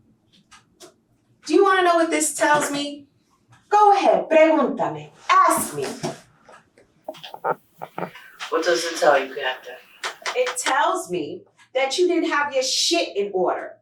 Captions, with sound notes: Do you want to know what this tells me? Go ahead. [Spanish speaking] Ask me. What does it tell you, Captain? It tells me that you didn't have your shit in order.